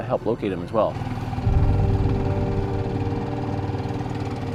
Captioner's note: engine rumbling